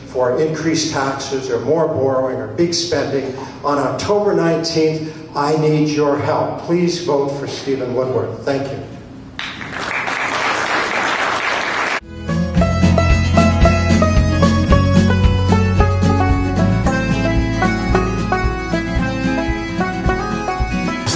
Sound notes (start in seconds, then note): 9.4 audience applause; 12.1 MUSIC: folk banjo